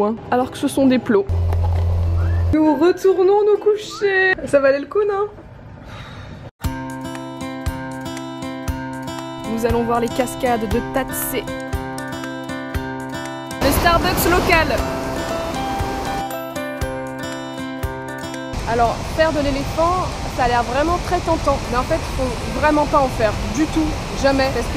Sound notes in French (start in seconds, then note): 5.8 soupir